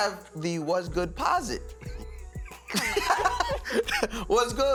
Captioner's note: laughs